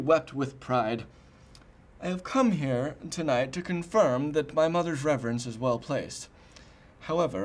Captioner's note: none